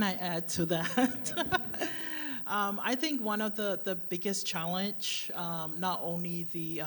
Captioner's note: laughs